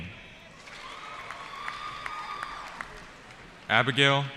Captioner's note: cheering